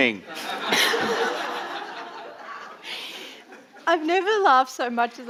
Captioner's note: audience laughing